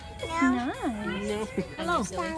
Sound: laughs

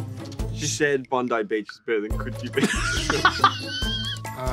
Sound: laughing

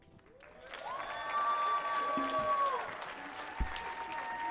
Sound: crowd cheers

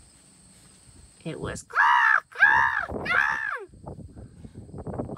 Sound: caw

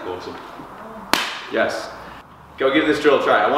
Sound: clapping

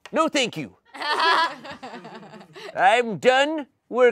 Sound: audience laughing

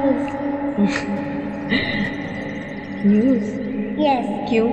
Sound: laughs

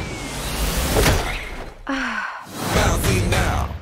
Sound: sighs

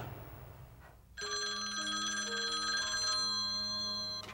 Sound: phone ringing

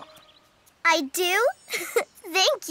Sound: giggles

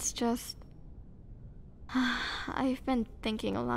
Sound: sigh

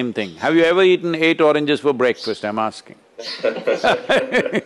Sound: laughter

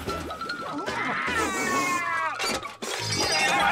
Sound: screaming

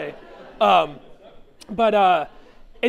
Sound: chuckling

